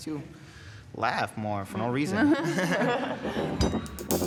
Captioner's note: laughs